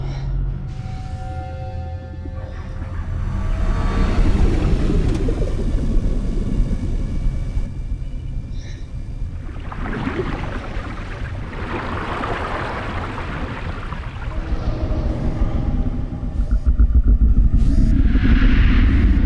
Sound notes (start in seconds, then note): 3.9 bubbling; 8.8 water rushing; 18.6 ominous music playing